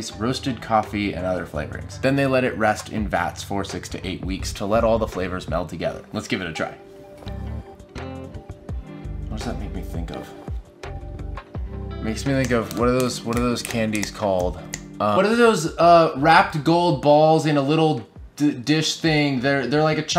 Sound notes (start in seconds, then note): 12.3 snaps fingers